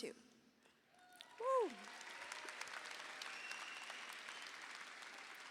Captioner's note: audience applauding